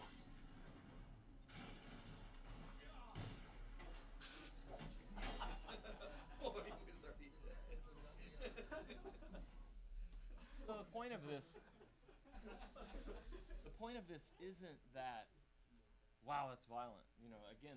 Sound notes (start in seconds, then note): 3.1 shooting; 8.6 audience laughing